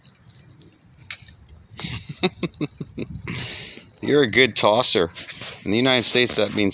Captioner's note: laughing